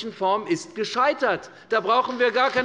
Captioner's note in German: Beifall bei der FDP